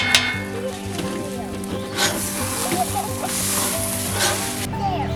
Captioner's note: haha